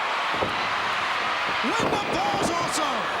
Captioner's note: crowd cheering